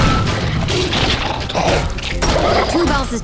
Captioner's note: 2Bells growling